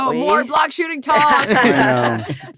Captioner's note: laughing